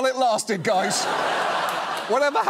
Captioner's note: laughter